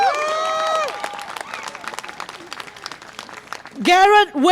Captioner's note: audience applause and cheer